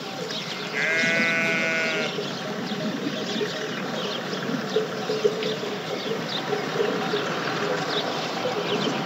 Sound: sheep, bells, bird sounds

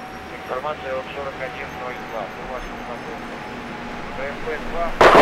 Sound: radio exchange

